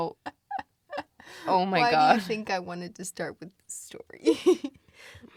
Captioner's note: both laugh; laughs